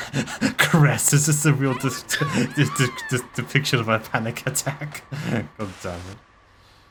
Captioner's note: laughs